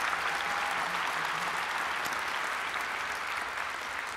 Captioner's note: applause